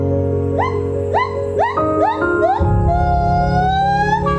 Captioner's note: monkeys whooping